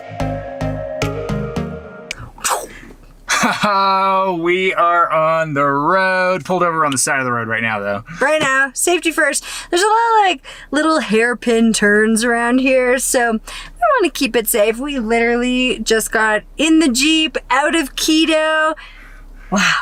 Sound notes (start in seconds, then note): 2.0 blows mouth; 3.3 laughs